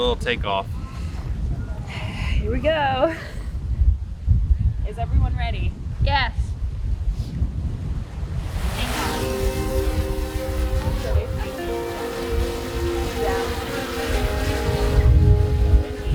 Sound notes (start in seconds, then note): 8.5 smooth music; 12.7 drone whirring